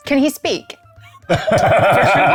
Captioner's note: laughing